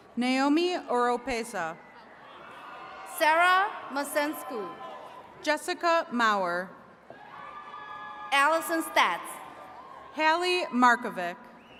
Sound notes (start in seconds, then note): 7.1 attendees cheering